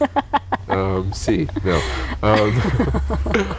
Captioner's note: laughter